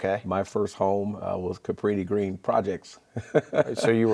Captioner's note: laughing